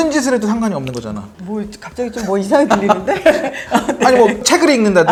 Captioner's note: hahahahahahahaha